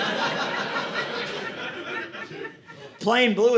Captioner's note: audience laughing